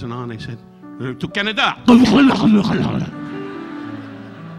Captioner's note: Don glugging alcohol; audience laughing